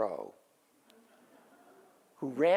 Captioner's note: audience laughs